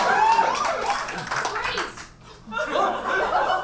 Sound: audience cheers

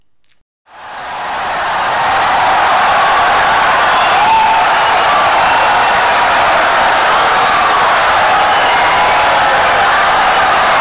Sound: wild applause and cheering for 17 seconds

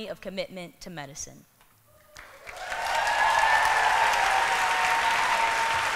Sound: applause

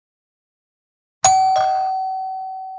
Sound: doorbell rings

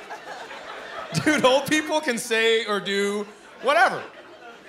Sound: chuckling

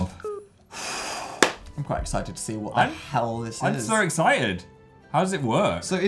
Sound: exhales through mouth; claps

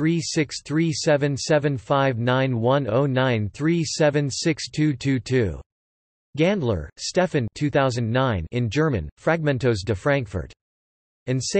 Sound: in German

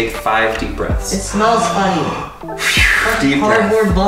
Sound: breathes loudly; blows air

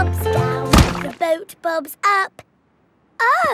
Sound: thuds

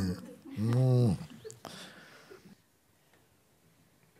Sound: groans as if wanting to break free

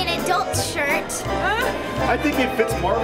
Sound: laughing

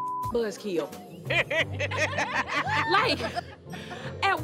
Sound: laughter

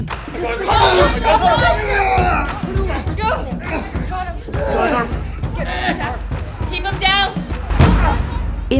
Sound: shouts; groans

